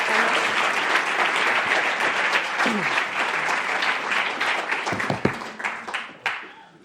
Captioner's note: applause